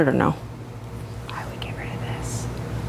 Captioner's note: whispers